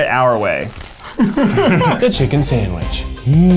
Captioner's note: laughing